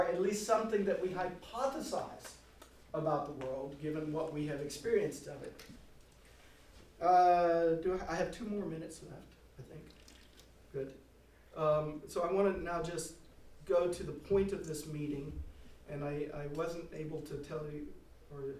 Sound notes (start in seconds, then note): none